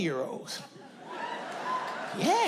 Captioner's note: audience laughing